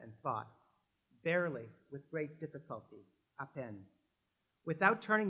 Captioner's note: french